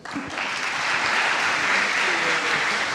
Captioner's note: audience applauding